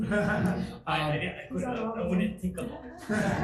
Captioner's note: group laughs